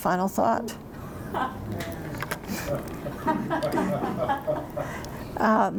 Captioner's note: laughter